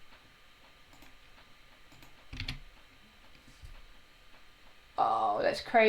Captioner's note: mouse clicking; keys tapping